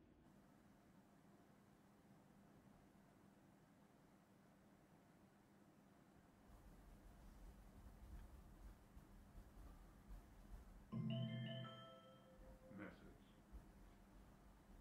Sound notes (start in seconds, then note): 10.9 mobile bleeps - "message"